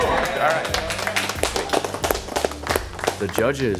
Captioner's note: applause